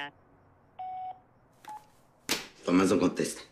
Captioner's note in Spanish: Pitidos